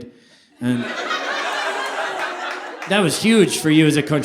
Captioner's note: audience applauding